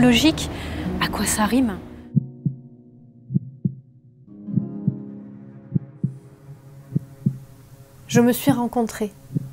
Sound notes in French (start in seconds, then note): 3.3 battements de coeur